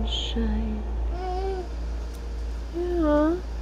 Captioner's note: cooing